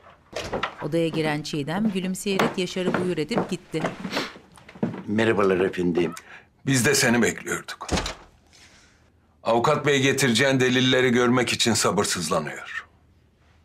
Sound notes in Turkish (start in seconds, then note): 0.1 Kapı açılma sesi; 2.2 Ayak sesi